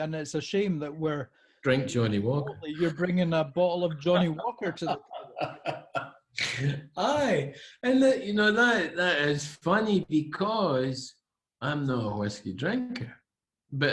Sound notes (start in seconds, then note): 4.0 laughing